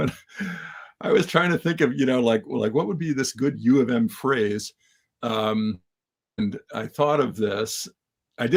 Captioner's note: laugh